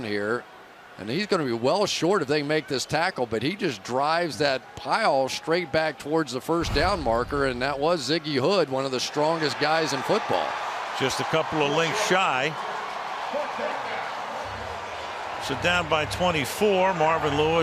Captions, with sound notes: Comes around here. And he's going to be well short if they make this tackle. But he just drives that pile straight back towards the first down marker. And that was Ziggy Hood, one of the strongest guys in football. [cheering] Just a couple of links shy. [pa announcement] So down by 24.